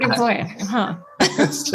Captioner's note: laughs